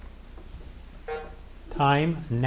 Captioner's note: timer buzzing